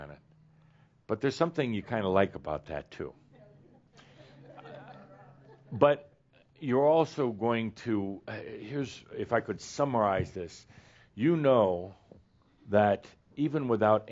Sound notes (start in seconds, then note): 3.8 a few chuckles